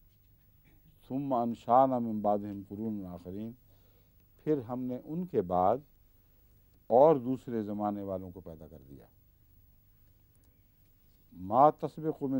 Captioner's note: Arabic